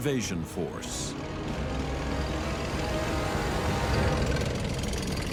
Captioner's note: tank engine roaring